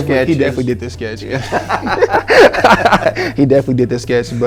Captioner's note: laughing